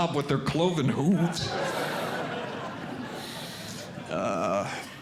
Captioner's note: audience Laughing